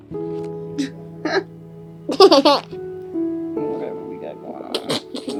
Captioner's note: giggling